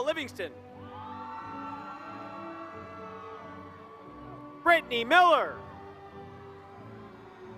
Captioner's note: applause